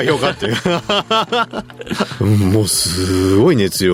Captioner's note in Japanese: 笑い